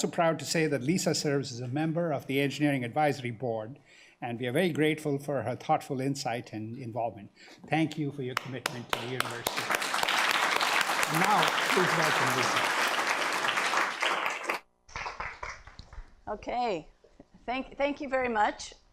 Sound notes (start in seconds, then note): 10.2 crowd applauding